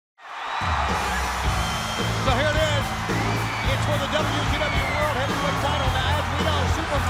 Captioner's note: crowd cheering